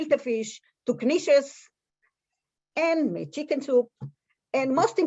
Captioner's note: Hebrew